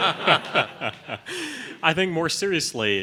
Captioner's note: laughing